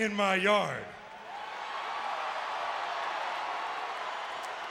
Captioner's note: crowd cheering